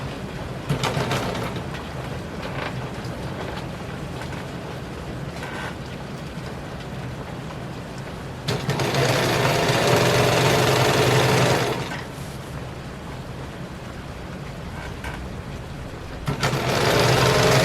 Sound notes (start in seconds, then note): 0.6 sound of the sewing machine joins the rain and thunder